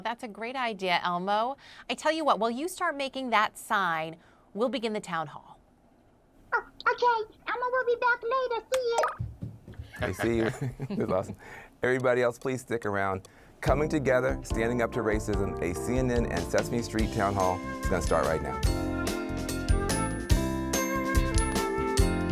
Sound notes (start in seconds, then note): 9.8 laughs; 18.9 bright upbeat music